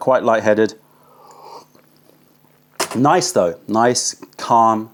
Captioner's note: sips tea